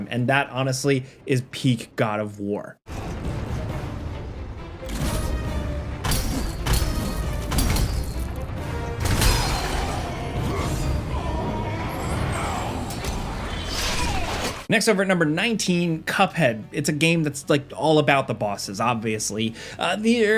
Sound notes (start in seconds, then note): 3.2 dramatic music; 9.8 Kronos yells